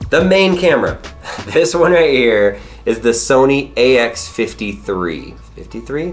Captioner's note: chuckles